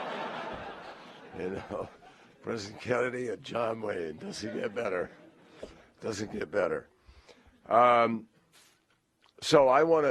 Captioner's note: laughter